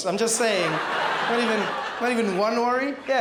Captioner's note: crowd laughs